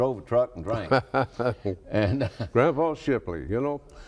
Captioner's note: laughs